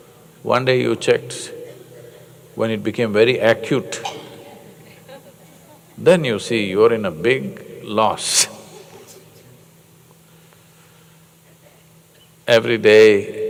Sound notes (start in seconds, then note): 8.3 laughs